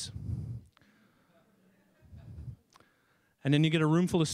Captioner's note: people chuckling